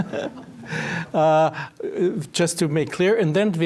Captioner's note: laughing